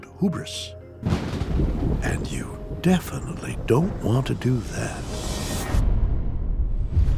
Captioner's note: thunder crashes